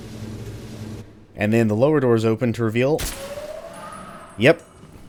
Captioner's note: Ingram shot, Trash Hags howling